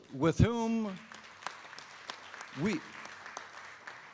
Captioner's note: applause